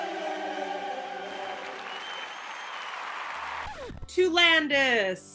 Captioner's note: audience applauding